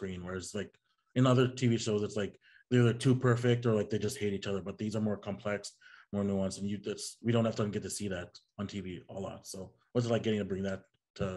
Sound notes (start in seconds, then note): none